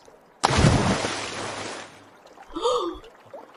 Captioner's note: splash!